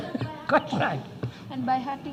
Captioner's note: laughs